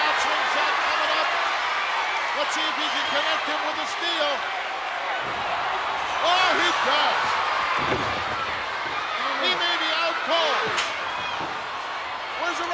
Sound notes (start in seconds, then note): 7.7 body thuds; 11.0 cage clicks